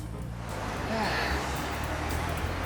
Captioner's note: sighs